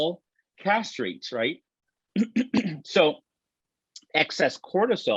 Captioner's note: laughs